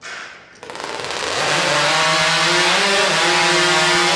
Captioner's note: chainsaw engines rev